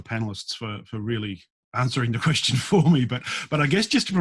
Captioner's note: laughs